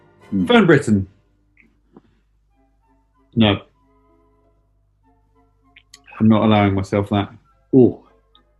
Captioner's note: none